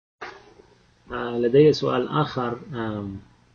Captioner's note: speaking Arabic